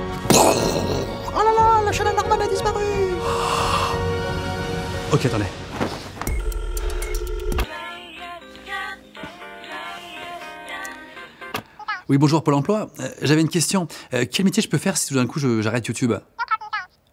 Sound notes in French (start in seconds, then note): 0.2 bruît d'explosion avec la bouche; 6.3 Tonalité téléphonique